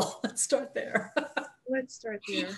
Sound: laughs; chuckles

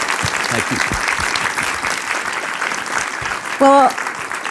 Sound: applause

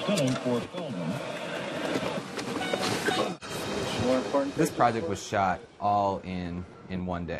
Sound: radio

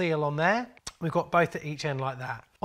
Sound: tongue clicks

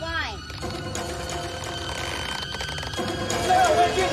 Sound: rope stretching

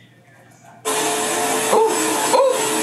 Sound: vacuum whirs

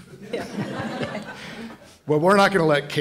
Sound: laughter

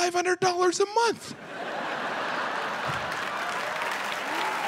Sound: audience laughing; audience applauding

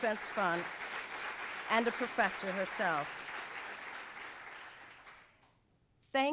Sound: audience applauds

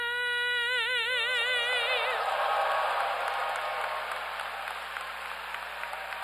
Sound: audience applauds

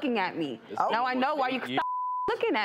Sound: beep

